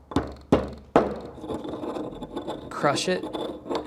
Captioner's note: pestle grinding